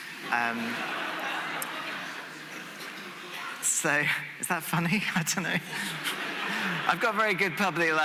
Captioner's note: laughter